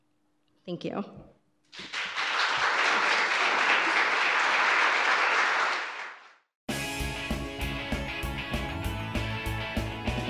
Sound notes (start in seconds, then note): 1.7 audience applause; 6.7 upbeat music